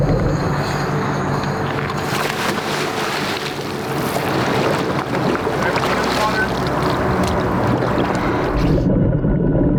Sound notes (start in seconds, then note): 2.1 water splashing